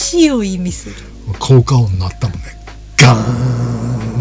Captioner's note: laughs